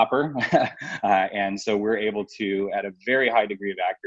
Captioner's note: laughs